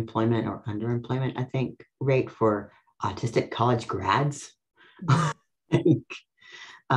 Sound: laughs

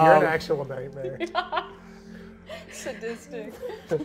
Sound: laughs

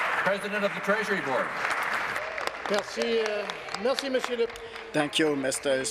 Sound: applause

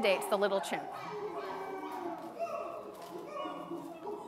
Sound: chimps hoo-ing

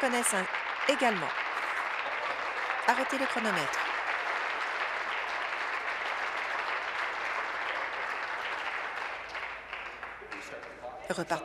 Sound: applause

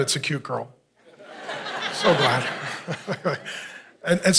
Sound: congregation laughing

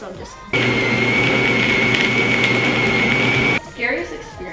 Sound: blender running

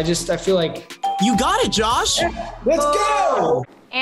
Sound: bell rings

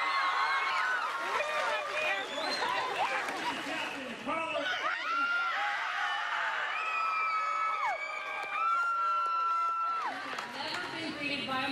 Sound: cheering

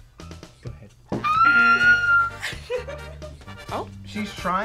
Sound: squeals

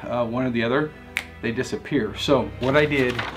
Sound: snaps

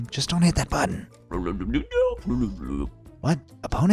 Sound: George mumbling

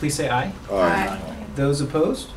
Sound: group response

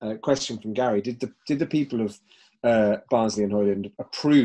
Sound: voice muffled

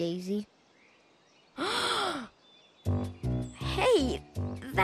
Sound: gasp

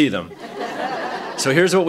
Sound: laughter

